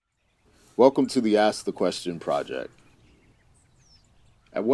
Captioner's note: birds chirping